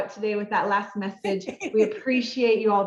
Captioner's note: laughing